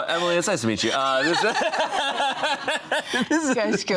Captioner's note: all laughing